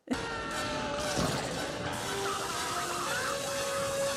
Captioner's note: screaming and laughing